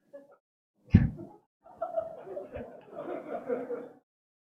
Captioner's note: audience laughing